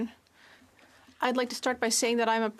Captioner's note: speaking French